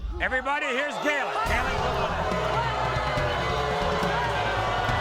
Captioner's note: audience booing